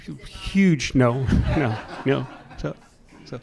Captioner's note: chuckles